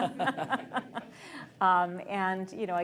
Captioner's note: laughter